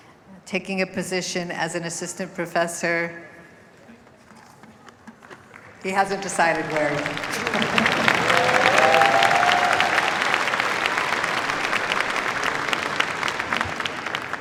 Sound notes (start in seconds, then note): 8.2 applause